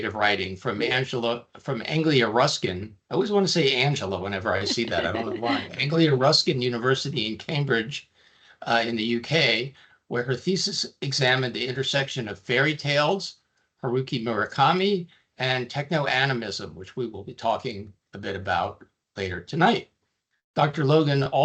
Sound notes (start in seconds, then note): 4.4 laughing